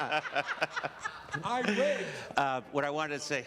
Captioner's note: laughter